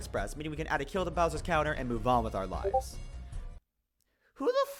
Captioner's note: Discord Ping